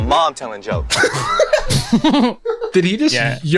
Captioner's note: pair laughs